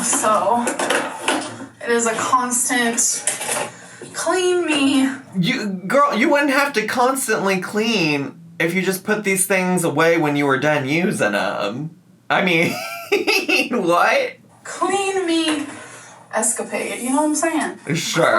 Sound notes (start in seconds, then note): 12.6 laughs